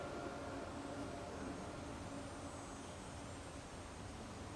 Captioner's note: wind blowing